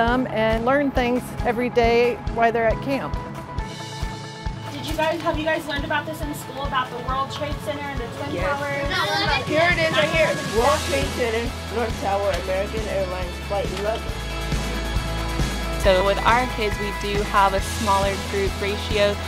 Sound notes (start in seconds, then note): 8.1 kids chattering